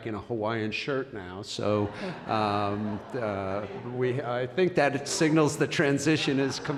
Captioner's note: laughter